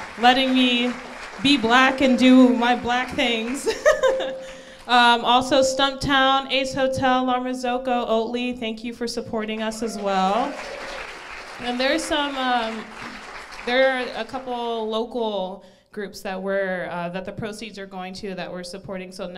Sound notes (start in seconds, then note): 3.4 laughs; 9.6 crowd applauds